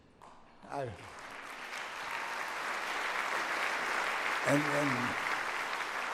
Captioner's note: audience applauds